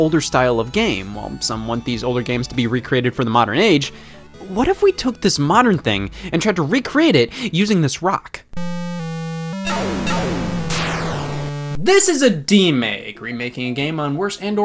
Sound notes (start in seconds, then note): 8.6 video game beeps